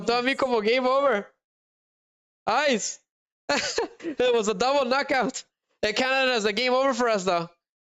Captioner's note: laughter